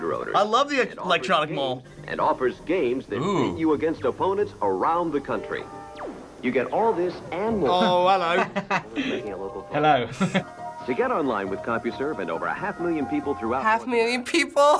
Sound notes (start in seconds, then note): 1.8 voice-over; 7.7 laughing; 10.5 voice-over